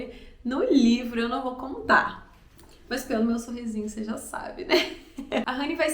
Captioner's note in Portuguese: risos